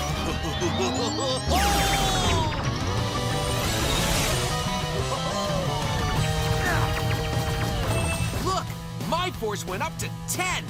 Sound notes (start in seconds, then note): 0.0 laughing; 6.6 grunting